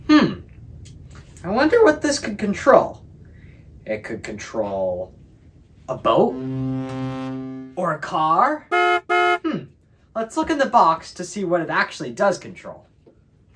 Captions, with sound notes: Hmm, I wonder what this could control. It could control a boat (boat horn honking) or a car. (car horn honking) Hmm, let's look in the box to see what it actually does control.